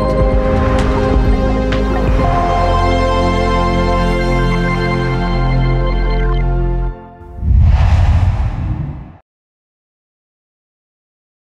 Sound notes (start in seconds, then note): 0.0 calm music plays; 7.2 logo swooshes